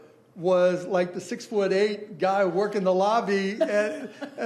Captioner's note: laughing